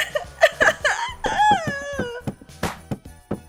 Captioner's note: crying